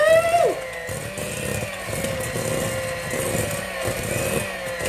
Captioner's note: mixer whirring